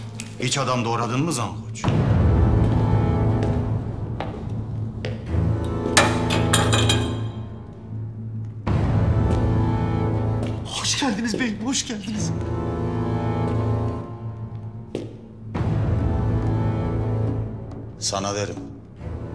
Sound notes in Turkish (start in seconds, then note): 1.8 Ayak sesi; 6.0 Bıçak düşme sesi